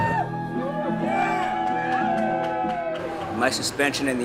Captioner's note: cheers from the audience